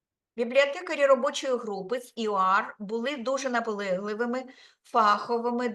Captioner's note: speaking Ukrainian